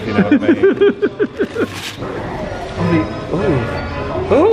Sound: laughs

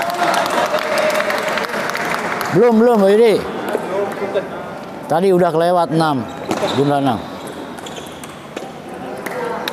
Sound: applause

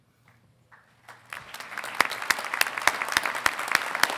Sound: audience applauding

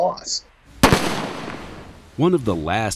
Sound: gun firing

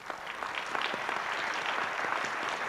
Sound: applause

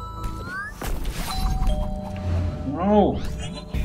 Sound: doorbell

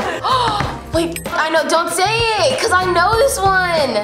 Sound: gasps

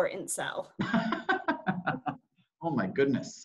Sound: laughs

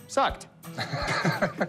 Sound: laughs

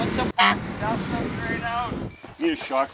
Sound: honks

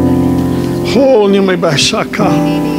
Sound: speaking in tongues

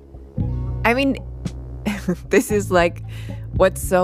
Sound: laughs

